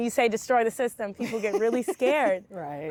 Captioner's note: laughing